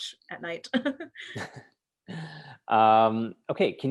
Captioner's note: laughter